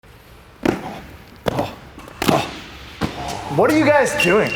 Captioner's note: feet stumping